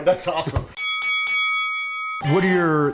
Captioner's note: dinging